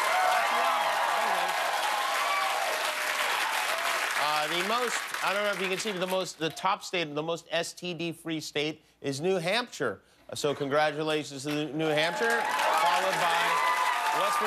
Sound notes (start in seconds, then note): 5.2 laughter and applause